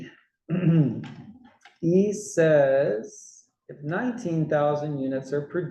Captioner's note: cough